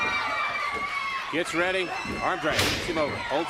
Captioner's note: crowd cheering